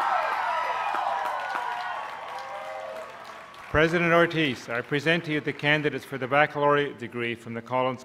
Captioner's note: cheers